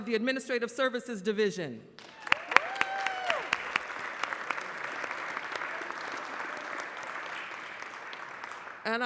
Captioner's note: applause